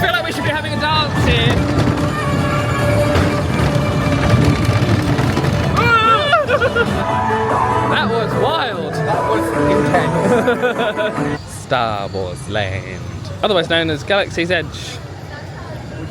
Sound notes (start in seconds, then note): 5.7 yell and laugh